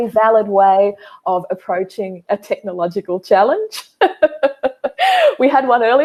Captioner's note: laughing